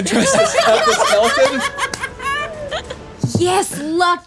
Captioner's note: everyone laughing